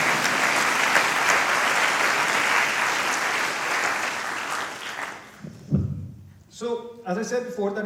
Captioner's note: applause